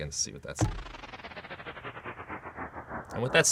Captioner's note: electronic whirring